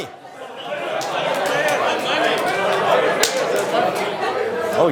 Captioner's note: crowd murmuring